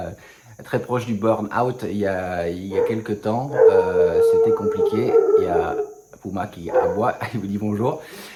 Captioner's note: Puma barks and says hello